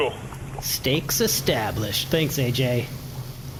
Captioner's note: sarcastic